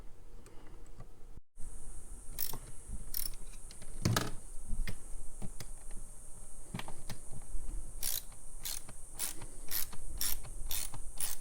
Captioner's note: ratcheting sound